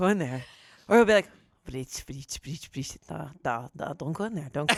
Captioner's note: speaks Russian